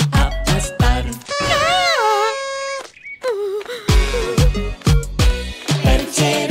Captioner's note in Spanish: Sonido de corneta